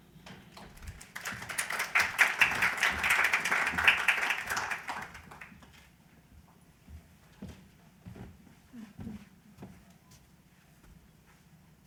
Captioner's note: applause